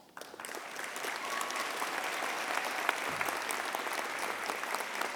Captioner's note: audience applauding